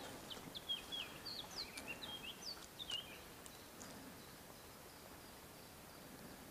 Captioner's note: birds chirping. All the time